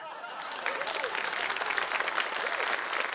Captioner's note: applause